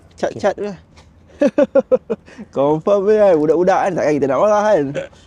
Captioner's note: laughs